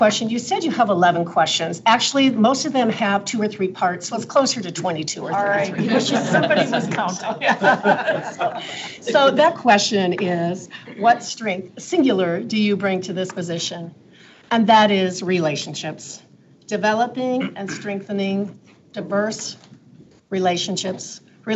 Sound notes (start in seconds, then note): 5.4 people laugh